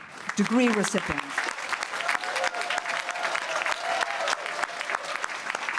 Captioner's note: applause and cheering